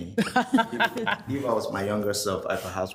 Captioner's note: group laughs